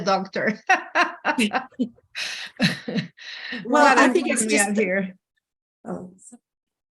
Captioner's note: laughter